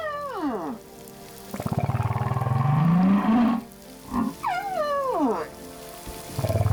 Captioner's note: grunting, squeaking